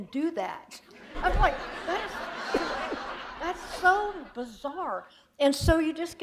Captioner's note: laughter